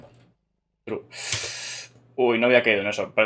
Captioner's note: sigh